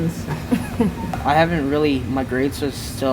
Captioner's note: laughs